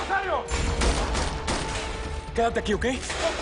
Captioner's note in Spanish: Disparos